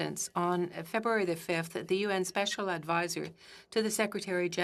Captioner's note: speaking French